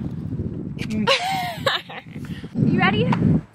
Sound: laughs

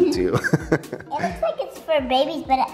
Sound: laughter

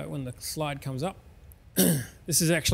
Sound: clears the throat

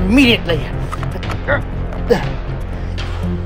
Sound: Muldoon grunting

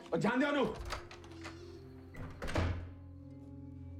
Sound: door opening, closing

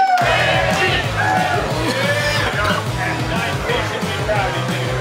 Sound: coughing

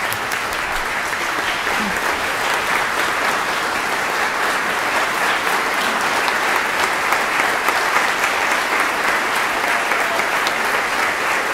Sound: applause

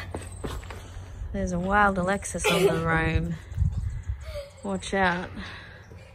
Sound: laughs

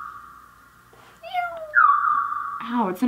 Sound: meows; chirping

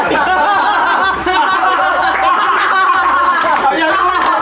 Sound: laughs

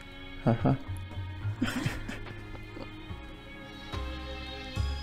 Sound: both laughing

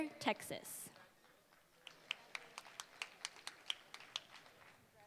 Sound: applause

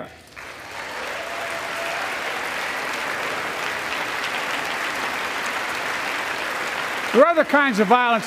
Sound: applause

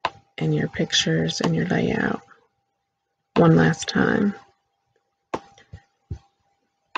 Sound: click

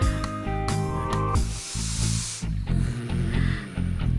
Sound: sniffs

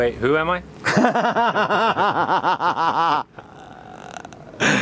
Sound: laughs loudly

